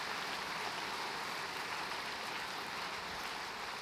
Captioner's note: applause